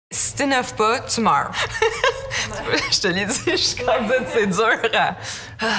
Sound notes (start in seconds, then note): 1.6 haha